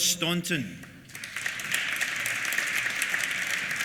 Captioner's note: applause